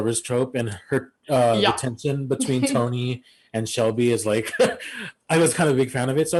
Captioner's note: laughs